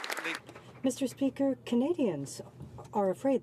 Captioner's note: some Applause